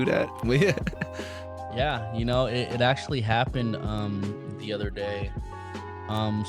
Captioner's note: laughs